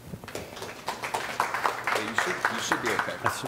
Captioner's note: audience applauds